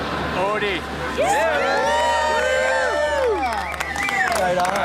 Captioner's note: cheering